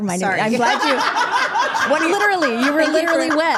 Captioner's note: group laughing